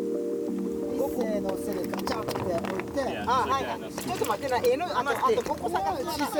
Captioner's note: indistinct conversation; speaking Japanese